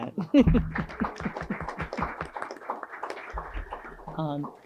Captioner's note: audience clapping